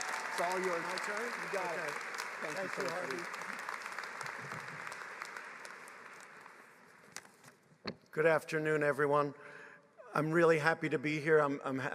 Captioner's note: applause